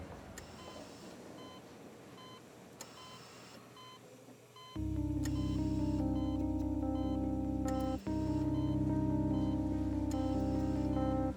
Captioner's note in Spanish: sonido de los monitores